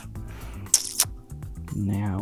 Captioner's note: sucks teeth